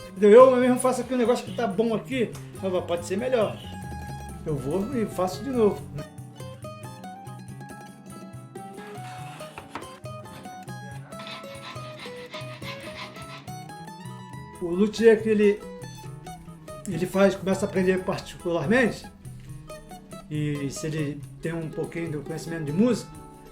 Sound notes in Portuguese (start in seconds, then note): 6.4 cavaquinho; 8.9 som das ferramentas